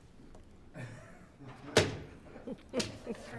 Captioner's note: laughing